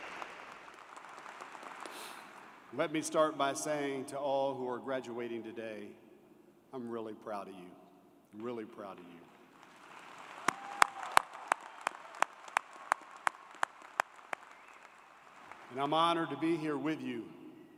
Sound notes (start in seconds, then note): 2.3 applause